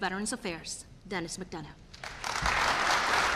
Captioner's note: applause